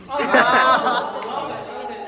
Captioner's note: everyone laughs